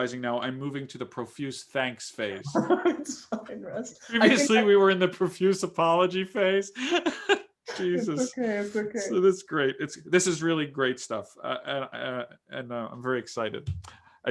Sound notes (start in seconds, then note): 2.5 laughing; 6.8 laughing